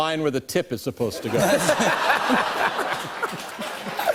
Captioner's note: laughter